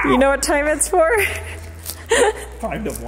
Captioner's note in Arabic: يضحك